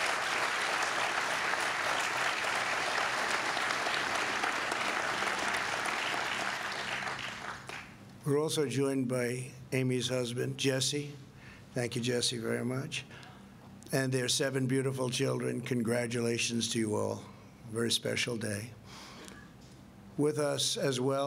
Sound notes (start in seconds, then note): 2.7 applause